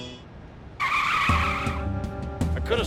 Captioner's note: tires screech